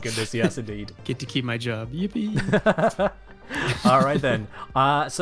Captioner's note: laughs; both laugh